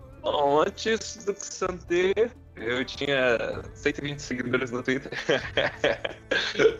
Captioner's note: laughter